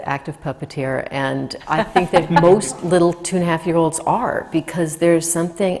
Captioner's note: laughs